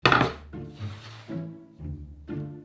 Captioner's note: quirky music playing in background throughout the video; board sliding